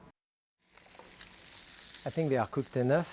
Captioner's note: meat sizzling